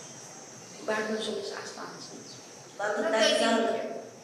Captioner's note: non-english speech